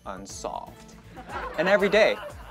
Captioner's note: audience laughs